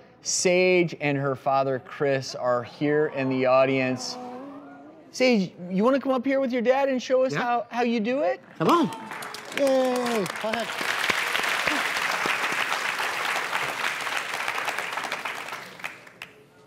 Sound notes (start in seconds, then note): 4.0 crowd coos